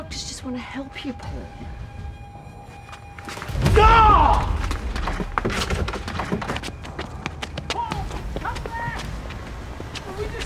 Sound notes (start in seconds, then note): 3.6 Karl yells